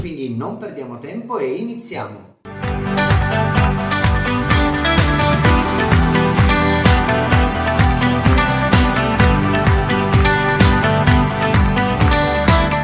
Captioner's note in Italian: Applauso